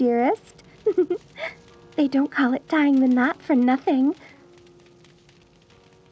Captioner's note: giggle